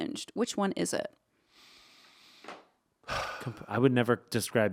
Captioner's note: sighing